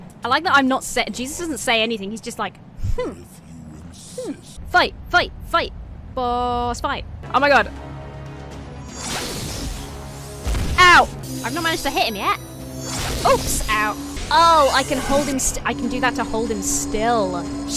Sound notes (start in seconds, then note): 8.0 dramatic music; 8.9 spell whooshes